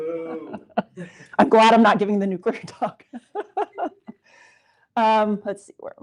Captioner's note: laughs